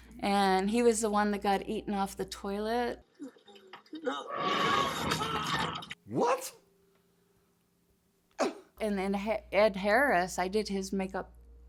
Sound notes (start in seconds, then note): 4.1 T-Rex snarling- screaming